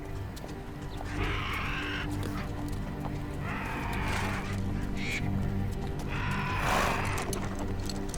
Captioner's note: vultures cawing